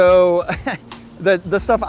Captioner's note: laughs